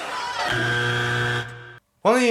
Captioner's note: buzzer sounds